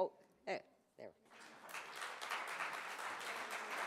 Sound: applause

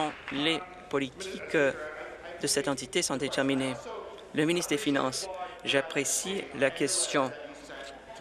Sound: applause

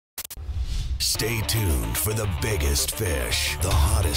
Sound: voiceover

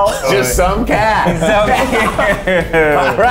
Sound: laughs

